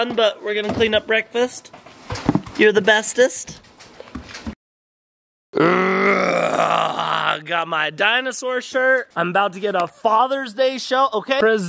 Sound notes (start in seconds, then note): 5.6 growls